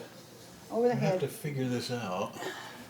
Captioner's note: sighs